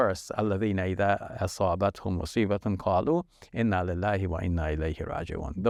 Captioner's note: speaks foreign language